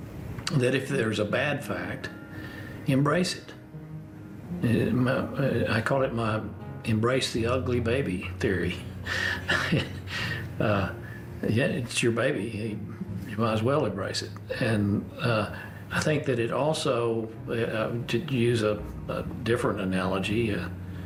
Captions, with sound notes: that if there's a bad fact, embrace it. (STAMMERS) I call it my "embrace the ugly baby" theory. (CHUCKLES) Uh, yeah, it's your baby, you might as well embrace it. And I think that it also, to use a different analogy,